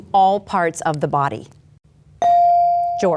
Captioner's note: bell dings